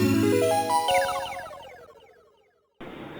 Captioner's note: 8-bit chirp echoes; low, ambient chatter